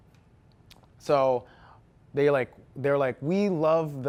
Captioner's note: none